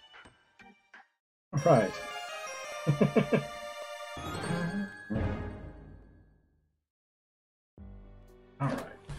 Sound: friendship fanfare; chuckles

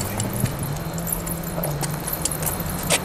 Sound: sound of baubles clanging

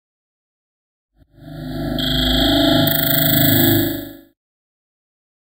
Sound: sound of haunted

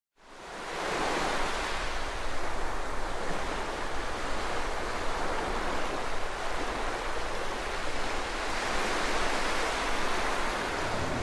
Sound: wind and water whooshing; train rumbling, wind whooshing

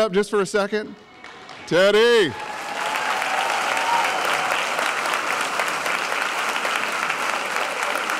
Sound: applause

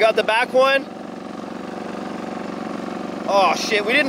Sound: machine rumbles

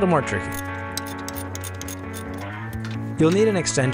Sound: wrench cranking

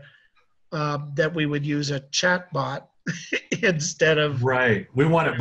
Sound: laughs

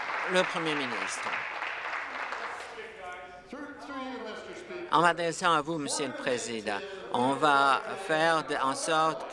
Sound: applause

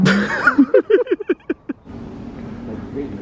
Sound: they laugh

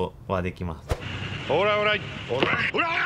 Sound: in ad: speaking Japanese; in ad: screaming

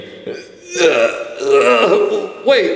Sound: Mario groaning

